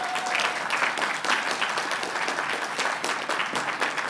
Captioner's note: applause